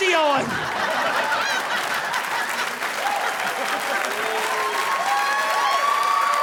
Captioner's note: crowd cheering; audience applauding